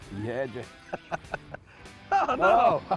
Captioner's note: laughs